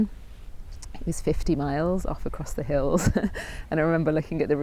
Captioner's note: chuckles